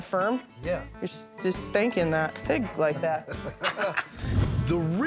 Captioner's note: laughs